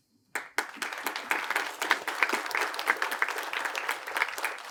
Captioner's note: attendees applaud